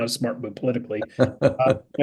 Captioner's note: laugh